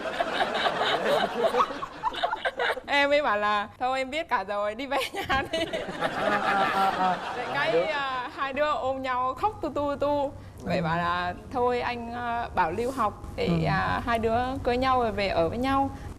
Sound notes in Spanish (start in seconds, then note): 5.5 risa